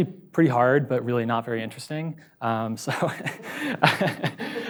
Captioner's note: laughs